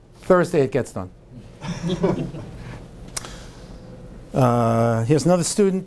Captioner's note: audience laughing